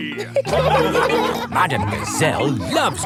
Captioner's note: laughing